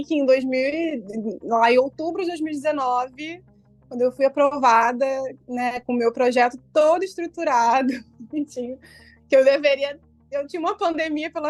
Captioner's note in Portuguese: risos